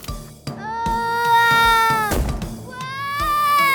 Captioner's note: Esme shouts; Olivia shouts